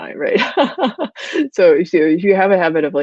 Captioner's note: laughing